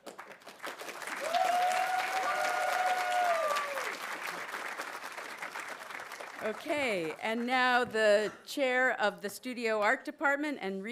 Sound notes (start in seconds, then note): 0.0 audience applauding; 1.1 audience cheering